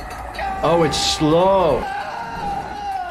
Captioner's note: screaming